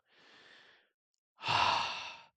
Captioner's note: sigh